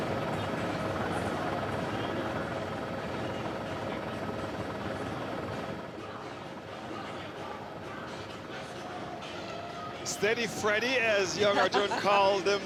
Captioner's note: laughter